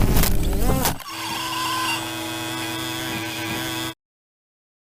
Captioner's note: bad drone sounds